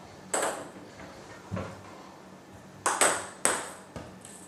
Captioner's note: balls ping pong hitting continues